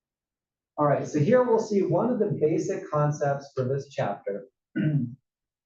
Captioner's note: cough